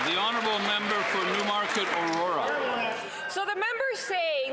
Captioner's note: cheering and Applause